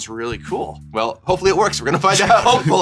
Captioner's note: laughter